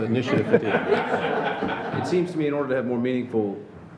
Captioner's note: laughing